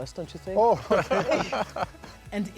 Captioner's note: laughter